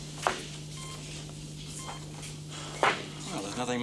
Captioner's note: ECG beeping